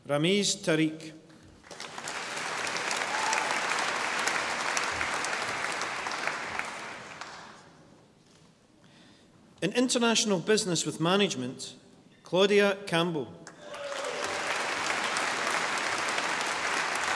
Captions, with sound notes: Ramiz Tariq. (audience applauding) In International Business with Management. Claudia Campbell. (audience applauding)